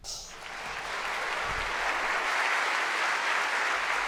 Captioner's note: audience applauds